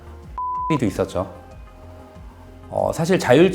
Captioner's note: beep